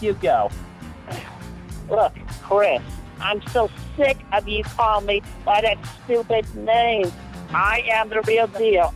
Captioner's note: sigh